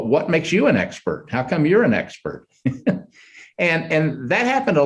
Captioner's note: chuckles